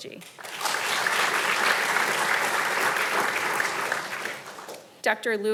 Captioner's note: audience applauding